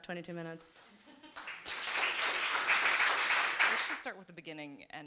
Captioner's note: group clapping